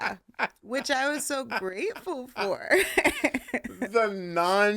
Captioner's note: laughter; laughing